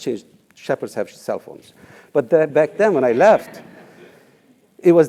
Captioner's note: laugh